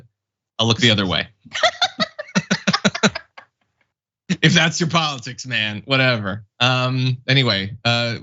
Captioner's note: laugh